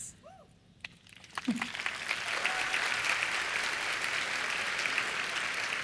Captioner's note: applause